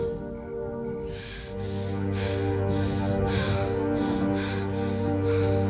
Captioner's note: Laurie gasping